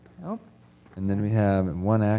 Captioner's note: none